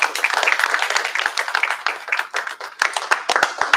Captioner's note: applause